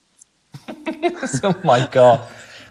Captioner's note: laughing